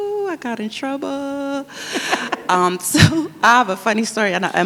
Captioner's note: laughs